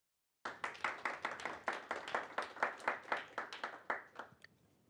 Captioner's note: applause